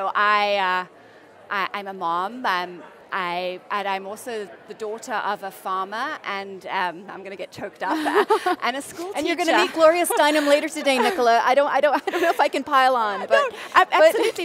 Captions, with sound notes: I'm a mom, and I'm also the daughter of a farmer, and I'm going to get choked up. (laughter) And a school teacher. >> And you're going to meet Gloria Steinem later today, Nicola. I don't know if I can pile on, but--